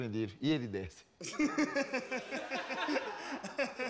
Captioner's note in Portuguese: todos riem